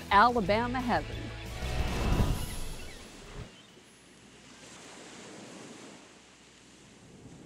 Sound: seagulls calling; waves lapping

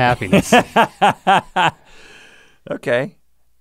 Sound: Rhett laughs

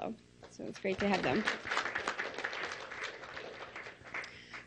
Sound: clapping

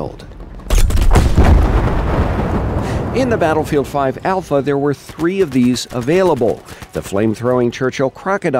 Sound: explosion

